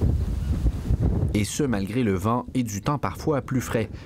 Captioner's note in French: bourrasque de vent